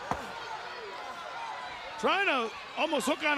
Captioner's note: crowd chatter